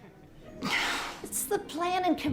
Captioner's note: sighs